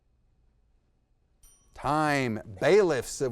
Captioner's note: bell tings